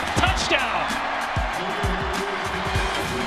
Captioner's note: cheering